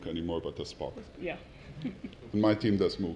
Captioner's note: laugh